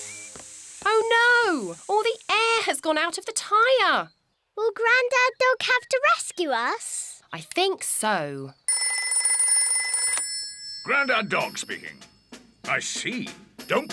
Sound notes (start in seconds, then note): 8.7 rings